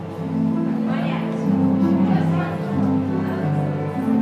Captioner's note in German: Fernes Stimmengewirr